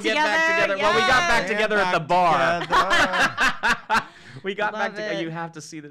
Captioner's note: chuckles